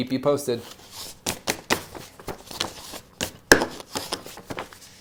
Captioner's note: papers rustling